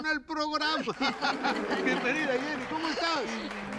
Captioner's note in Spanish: Risas